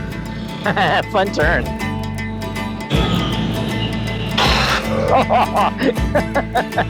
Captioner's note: laughing